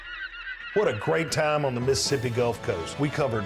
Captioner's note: seagulls cawing